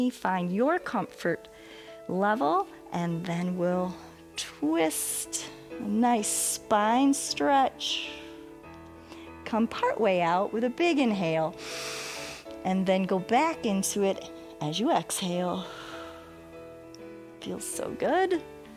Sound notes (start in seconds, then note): 11.6 inhales; 16.4 exhales